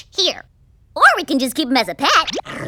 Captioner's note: growls